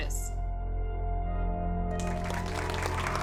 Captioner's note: applause